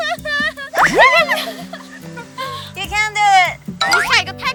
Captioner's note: they laughed at her